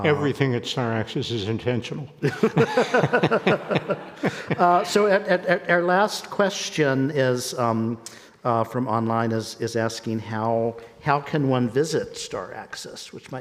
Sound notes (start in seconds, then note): 2.2 people laughing